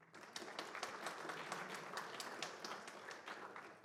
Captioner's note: applause